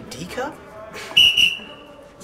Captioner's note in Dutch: fluit